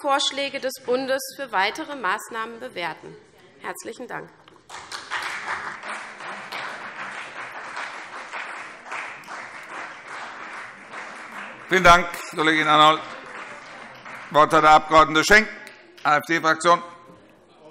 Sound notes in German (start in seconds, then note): 4.6 Beifall CDU